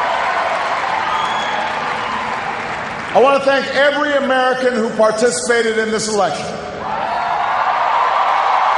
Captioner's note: cheers, applause